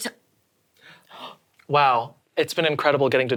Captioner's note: gasps